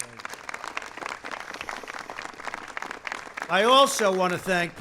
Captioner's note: applause